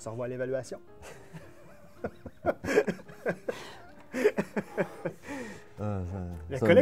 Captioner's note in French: rire